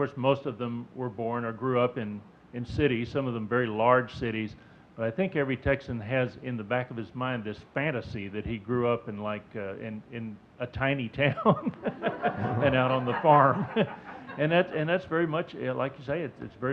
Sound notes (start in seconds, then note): 11.4 laughing; 11.5 audience laughing